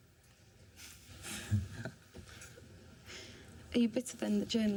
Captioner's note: both laugh